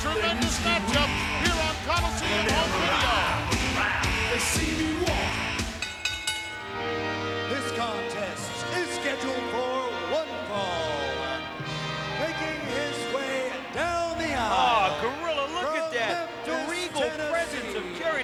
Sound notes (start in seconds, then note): 4.7 bell rings; 6.2 dramatic music